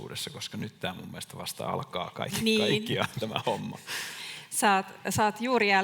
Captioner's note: naurahtaa